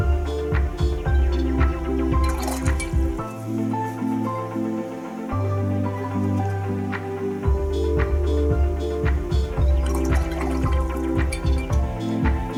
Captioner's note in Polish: Aplauz